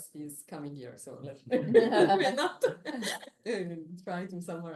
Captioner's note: laughter